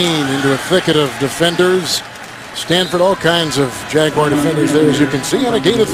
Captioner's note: crowd yelling